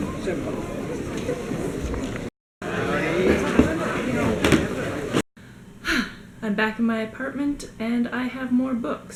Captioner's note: sighs